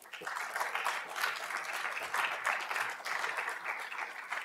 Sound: audience applauding

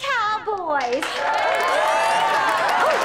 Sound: cheering

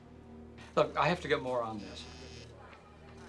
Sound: phone buzzing

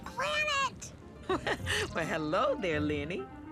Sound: chuckles

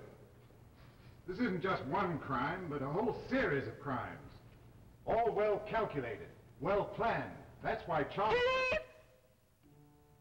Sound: Marie Louise interrupts, yelling

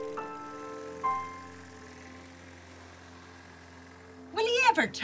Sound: sound of Lawnmower

